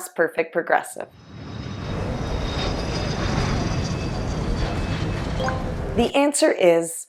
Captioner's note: plane taking off